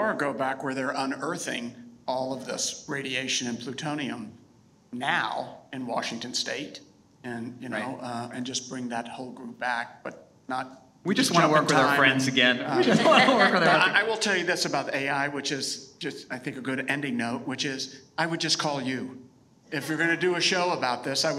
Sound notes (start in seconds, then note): 12.6 all laughing